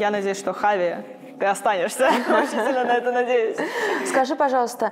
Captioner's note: laughs